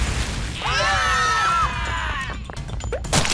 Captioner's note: screams